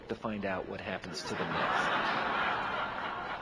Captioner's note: audience laughing